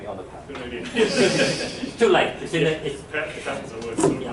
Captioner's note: laughter